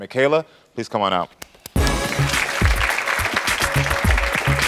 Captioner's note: applause